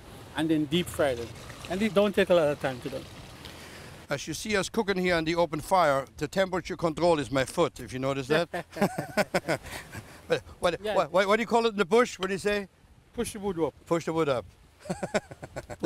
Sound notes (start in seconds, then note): 8.4 laughter; 14.8 laughs